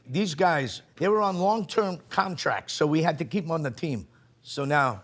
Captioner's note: none